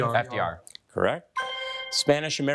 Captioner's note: bell dinging